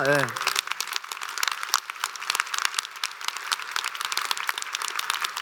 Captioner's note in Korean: 박수